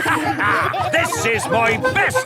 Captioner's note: all laughing